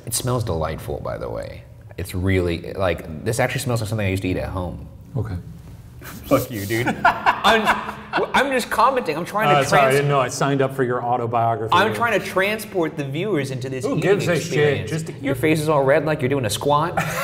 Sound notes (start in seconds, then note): 6.0 laughing